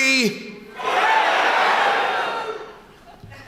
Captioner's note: loud shouting